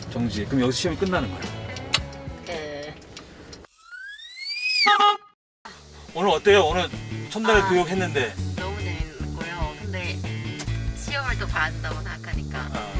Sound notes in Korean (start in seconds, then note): 3.6 전동 휠체어 소리; 4.8 경적 소리